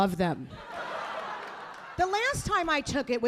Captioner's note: audience laughing